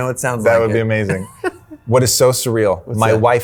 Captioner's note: laughing